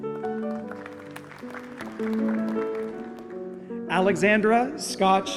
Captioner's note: applause